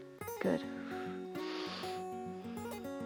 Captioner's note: exhales and inhales